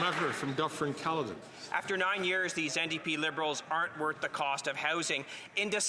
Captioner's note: some Applause